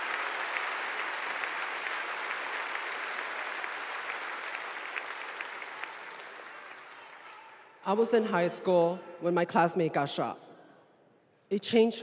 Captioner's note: applause